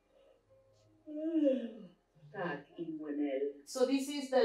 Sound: yawning

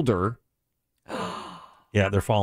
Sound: gasps

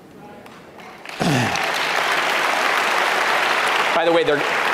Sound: audience clapping

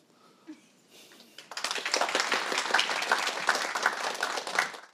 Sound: applause

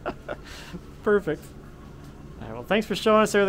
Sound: laughing

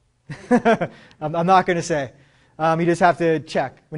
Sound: laughs

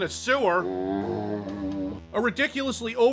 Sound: zombie sound

